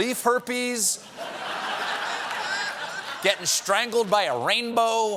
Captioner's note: laughter